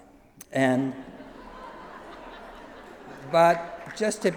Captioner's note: laughter